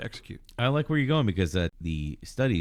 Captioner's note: uh